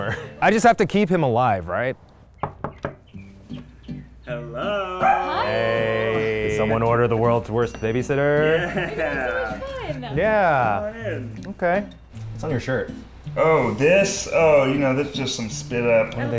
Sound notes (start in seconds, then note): 2.4 knocks; 8.3 laughs